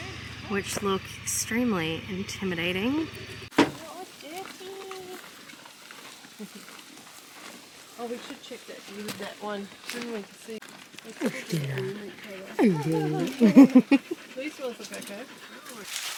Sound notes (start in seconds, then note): 4.0 intimidating cows chew their hay; 12.4 chuckles